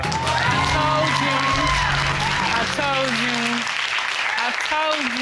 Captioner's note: cheers and applause